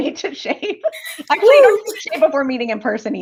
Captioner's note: laughter